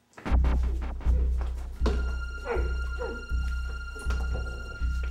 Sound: dramatic chord; muffled crying out; ominous music

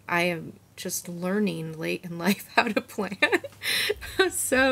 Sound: chuckles

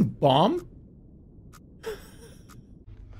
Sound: wheezing

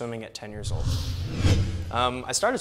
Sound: boom

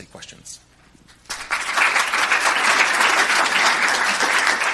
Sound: applause

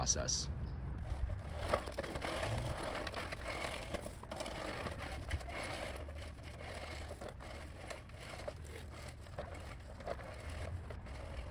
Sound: lawn Mowing Sounds

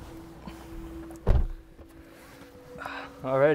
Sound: car door close

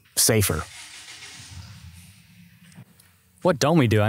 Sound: engine rumbling

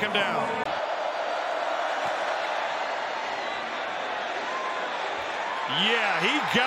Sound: crowd

